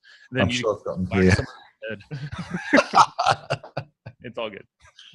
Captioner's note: laughter